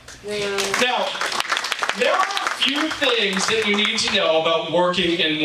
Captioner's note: audience applauding